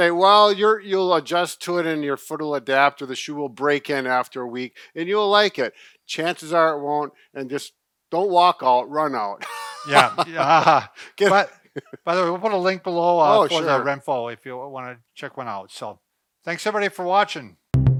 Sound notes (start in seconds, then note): 9.4 laughing